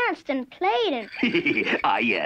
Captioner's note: laughing